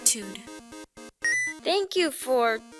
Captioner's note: ding